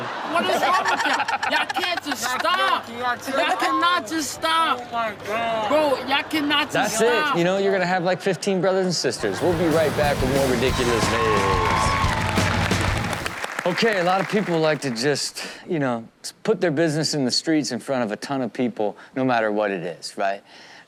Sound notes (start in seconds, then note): 11.3 audience cheers; 11.3 upbeat rock music